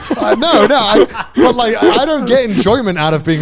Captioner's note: laughs